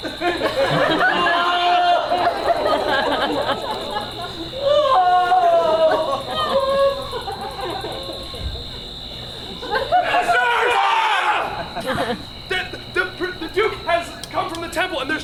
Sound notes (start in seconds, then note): 0.2 audience laughs; 1.5 Quince and Flute crying; 9.7 actors yelling